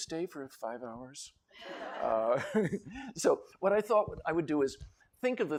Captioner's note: laughter